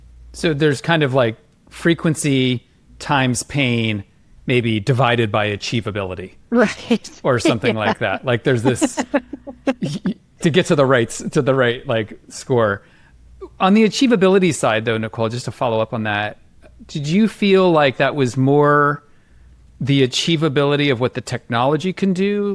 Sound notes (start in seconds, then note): 6.6 laughs